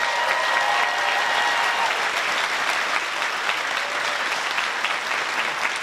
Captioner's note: applause